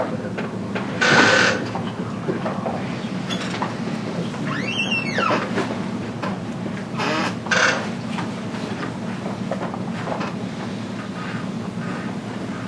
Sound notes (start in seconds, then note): 1.3 creaking